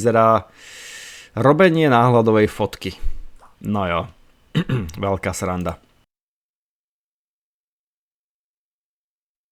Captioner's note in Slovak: odkašľanie